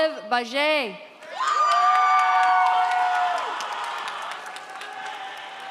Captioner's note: audience applauds